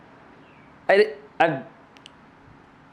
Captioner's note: stumbling over words in relief